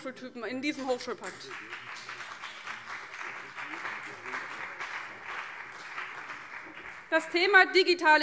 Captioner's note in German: Beifall BÜNDNIS 90/DIE GRÜNEN